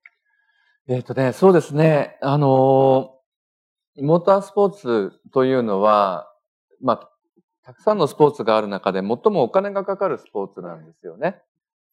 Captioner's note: speaking japanese